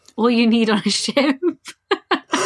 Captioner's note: laughing; laughs